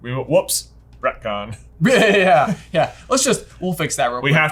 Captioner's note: chuckles